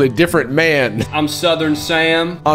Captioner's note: southern accent